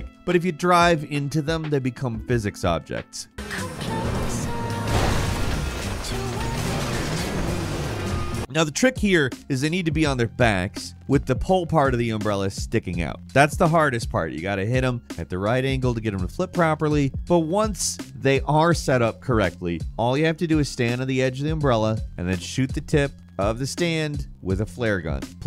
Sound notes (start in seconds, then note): 5.0 car crashes